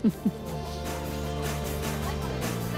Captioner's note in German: Stimmengewirr